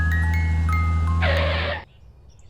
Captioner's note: skid